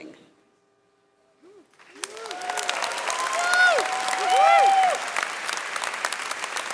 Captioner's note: audience cheering and clapping